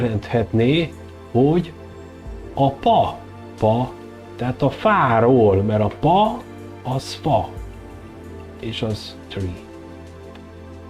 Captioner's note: in English